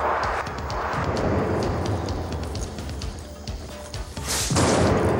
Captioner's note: explosion booming